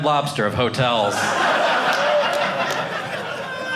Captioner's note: audience laughing